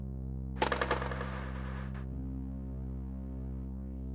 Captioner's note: skateboard clacking